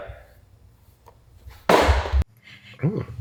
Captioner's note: package thudding